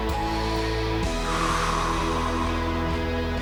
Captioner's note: exhales